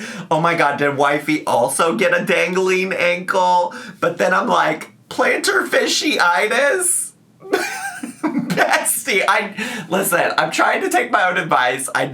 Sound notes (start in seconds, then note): 7.4 laughs